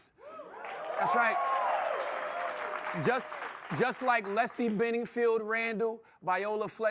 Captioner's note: applause